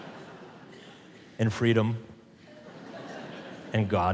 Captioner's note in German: Publikum lacht; Publikum lacht